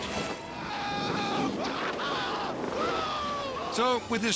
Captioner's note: yelling